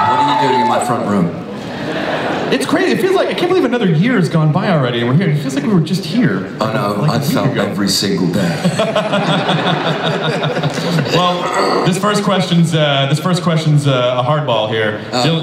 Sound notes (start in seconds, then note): 0.0 audience cheers; 1.6 audience laughs; 8.4 Chris laughs